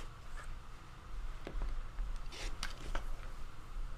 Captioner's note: ruler clatters